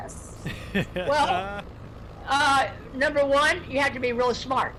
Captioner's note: man laughs